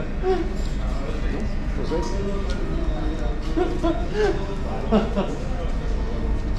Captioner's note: laughing out loud